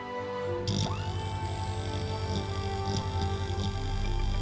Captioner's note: electronic whirring